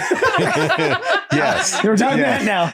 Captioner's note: all laugh